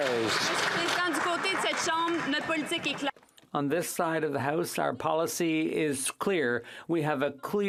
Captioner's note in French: applaudissements